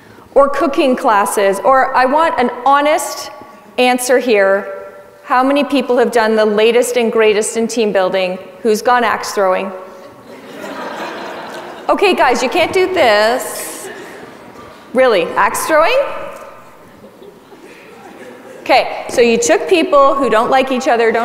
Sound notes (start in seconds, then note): 10.1 audience laughs